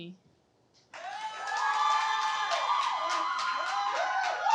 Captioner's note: crowd cheers and applauds